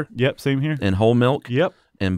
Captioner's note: voiceover